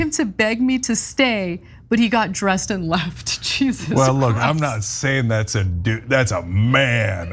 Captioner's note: laugh